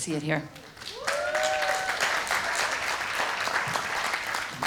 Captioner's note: audience applauds